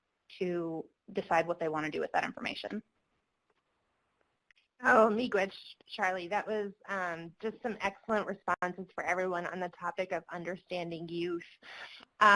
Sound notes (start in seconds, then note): 5.3 speaking foreign language